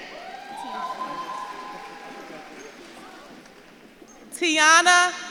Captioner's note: audience claps and cheers